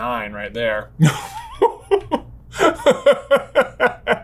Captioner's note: laughing